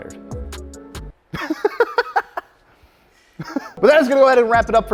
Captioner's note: laughing